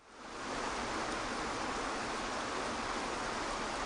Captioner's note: waterfall rushes